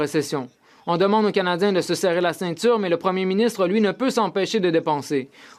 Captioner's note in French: voix de l'interprète